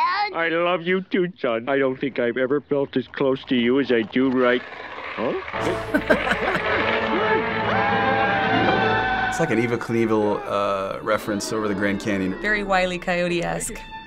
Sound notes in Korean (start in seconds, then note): 5.6 웃음